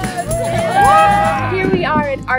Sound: cheering

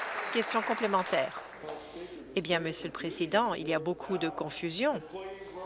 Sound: applause

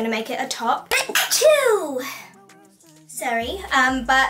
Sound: sneezes

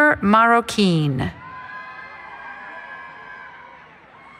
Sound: cheering

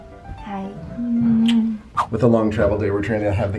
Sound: kissing

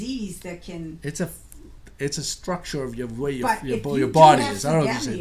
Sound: voiceover

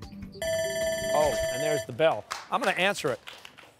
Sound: timer sounding

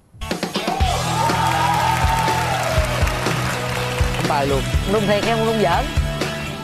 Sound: clap

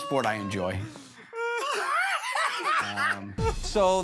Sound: laughter

